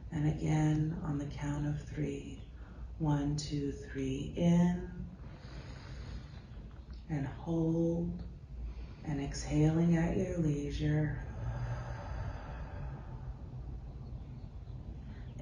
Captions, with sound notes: And again, on the count of three. One, two, three, in. And hold, and exhaling at your leisure. (exhales)